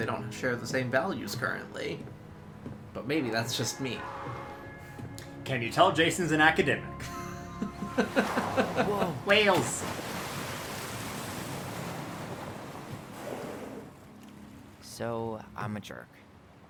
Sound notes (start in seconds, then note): 7.0 laughing